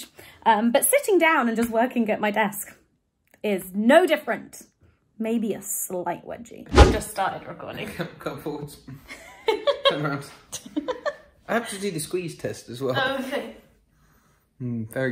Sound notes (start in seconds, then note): 9.1 laughing